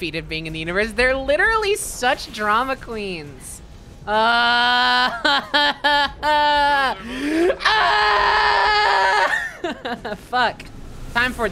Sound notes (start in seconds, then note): 4.1 sad yell-crying noises; 7.4 shouting to the sky